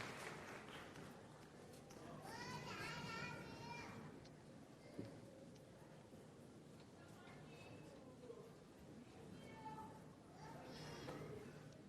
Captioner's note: cheering and Applause; crowd Noise